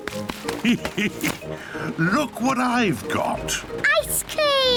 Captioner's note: laughs